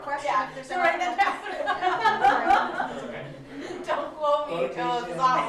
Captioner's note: laughs